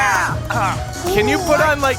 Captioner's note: Pleck makes pained noises